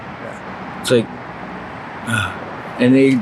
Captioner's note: sighs